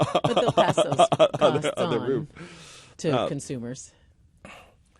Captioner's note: yang laughs